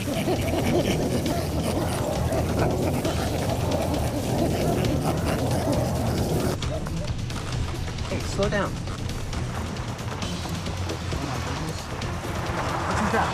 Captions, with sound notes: (chimps chattering) - Hey, slow down.